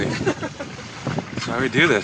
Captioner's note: laughs